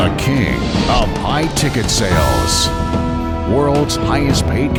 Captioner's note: triumphant music; voiceover